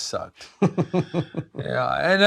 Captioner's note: laughs